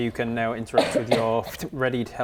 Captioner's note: pftoo